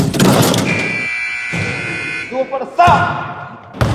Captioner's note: dunk sound; buzzer